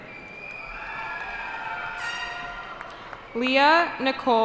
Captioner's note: cheering